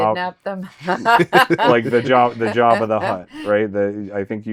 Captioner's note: laughing